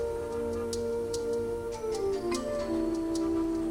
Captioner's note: horn toots